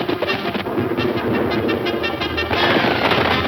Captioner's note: bold instrumental music; thunder rumbles; bold instrumental music